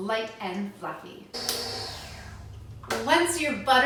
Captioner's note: mixer whooshing